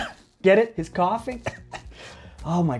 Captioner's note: coughing; coughing